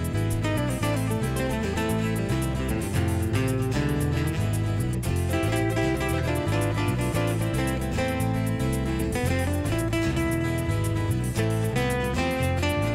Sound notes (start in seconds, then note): none